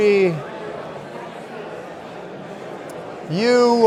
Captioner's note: audience continues indistinctly chattering